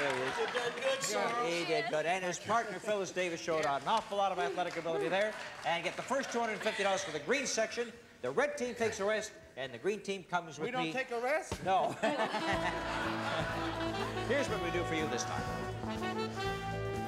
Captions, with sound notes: - You've done good, Sorrell. - He did good, and his partner, Phyllis Davis, showed an awful lot of athletic ability there. And get the first $250 for the green section. The red team takes a rest. And the green team comes with me. - We don't take a rest? - No. [laughs] Here's what we do for you this time.